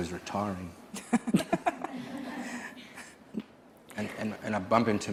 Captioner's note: laughing